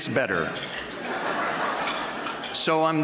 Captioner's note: laughter